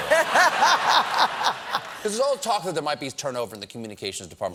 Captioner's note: laughter